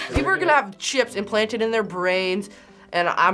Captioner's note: none